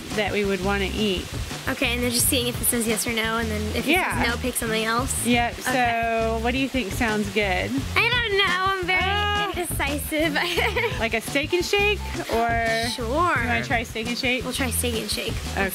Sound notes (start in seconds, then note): 10.3 giggles